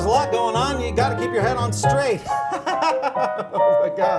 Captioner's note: laughing; lively music